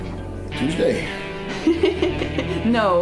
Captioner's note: woman laughs